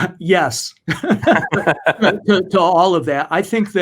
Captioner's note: both laughs